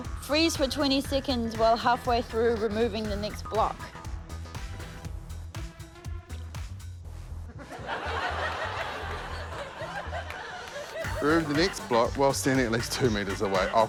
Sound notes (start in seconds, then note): 7.6 laughter